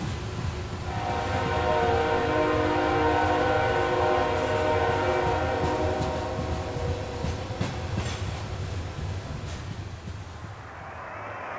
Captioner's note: loud train passing